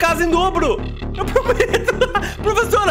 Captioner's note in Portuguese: risos